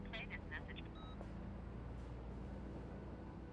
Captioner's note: beep